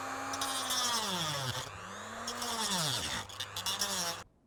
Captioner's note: more grinding of power tool